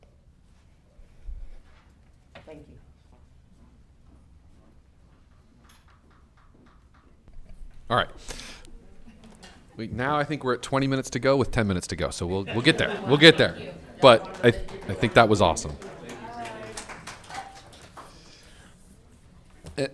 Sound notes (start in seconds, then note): 12.4 all laughing; 17.2 all applauding